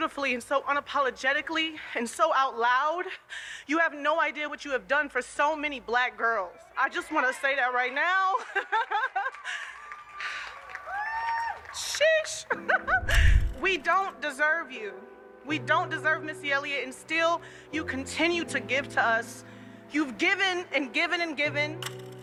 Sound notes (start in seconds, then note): 8.4 chuckles; 9.0 audience cheers; 12.4 chuckles